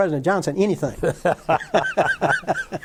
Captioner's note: laughter